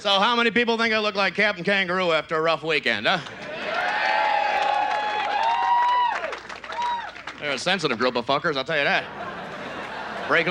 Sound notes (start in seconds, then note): 3.3 audience cheers